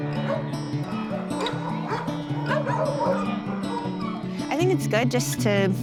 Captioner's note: dogs barking